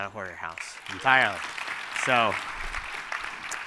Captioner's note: applause